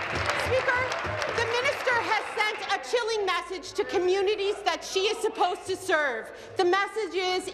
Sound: applause

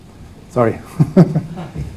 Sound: laughs

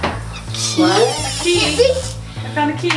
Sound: door squeaks

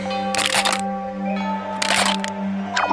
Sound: crushing

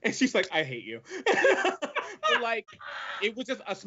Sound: both laugh

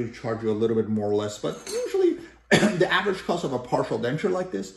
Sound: cough

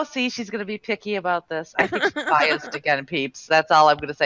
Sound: laughing

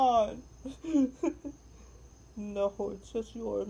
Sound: sobs

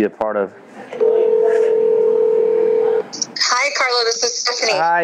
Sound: phone rings

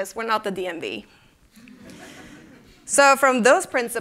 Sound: laughter

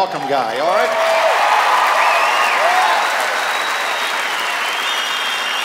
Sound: cheers and applause

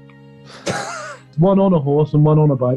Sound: sniggering

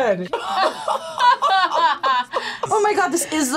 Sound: both laugh

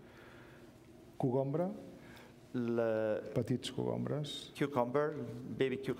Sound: speaking catalan

